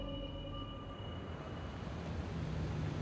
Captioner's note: car approaching